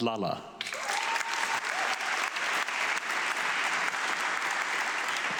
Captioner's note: audience clapping